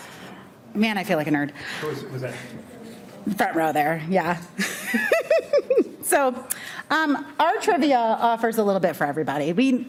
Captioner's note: laughs